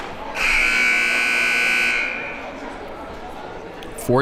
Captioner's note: buzzer blares